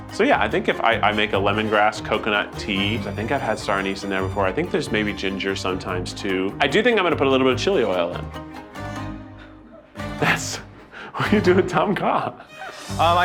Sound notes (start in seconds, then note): 9.6 laughter; 12.4 laughing